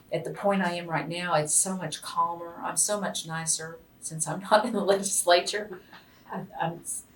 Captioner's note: laughs